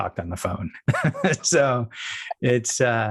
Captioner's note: laughs